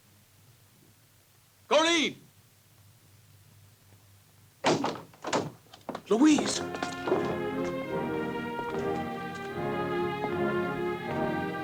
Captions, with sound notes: Corinne! (door opens) Louise. (dramatic orchestral music)